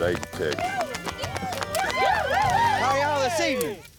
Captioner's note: cheering, applause